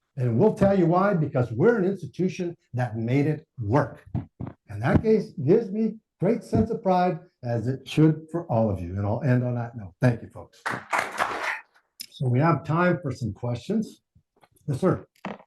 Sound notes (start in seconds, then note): 10.6 audience applauding